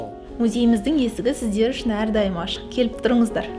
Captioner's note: speaking in Kazakh